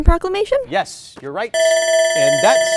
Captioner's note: timer buzzer